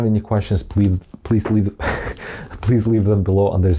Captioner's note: soft thudding; chuckles